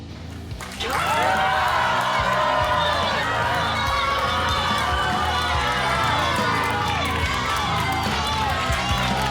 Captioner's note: rock Music; audience clapping